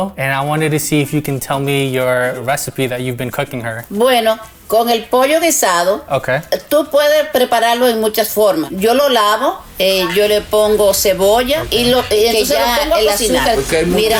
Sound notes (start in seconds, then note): 3.9 speaking foreign language; 9.6 suspenseful music